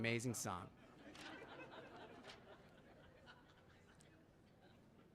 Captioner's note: audience laughing